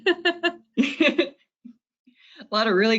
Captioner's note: laughing